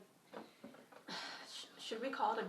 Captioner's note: sighs